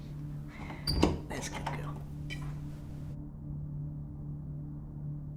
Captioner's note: opening door